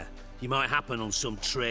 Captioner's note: none